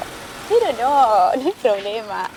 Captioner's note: laughing